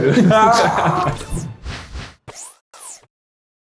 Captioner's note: laughs